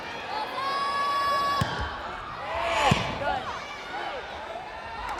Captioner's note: players yelling